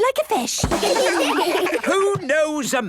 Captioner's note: children laugh